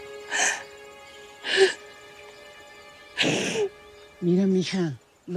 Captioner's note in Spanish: Sollozos